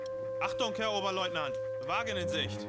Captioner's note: speaking german